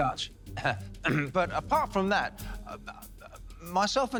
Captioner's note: clears throat